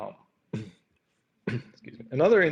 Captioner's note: coughing